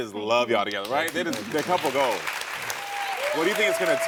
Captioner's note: audience cheering